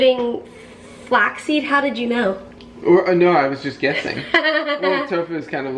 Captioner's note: laughs